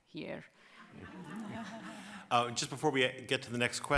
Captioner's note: audience laughs